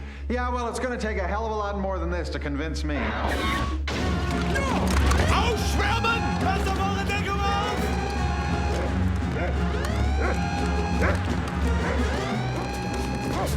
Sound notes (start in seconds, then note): 4.8 yelling in german; 9.2 alarm blaring; 10.2 dog barking